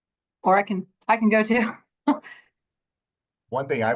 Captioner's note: laughs